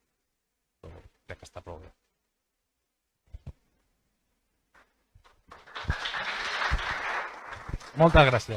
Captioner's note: audience applause